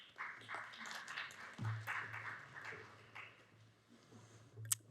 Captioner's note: audience applauds